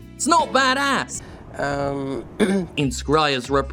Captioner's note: clears throat